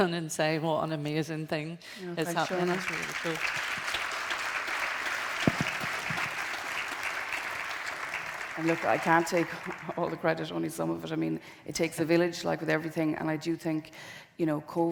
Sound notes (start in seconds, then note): 2.2 audience applauding